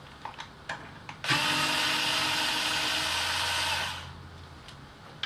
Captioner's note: whirrr